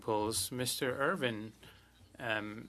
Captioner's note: speaking French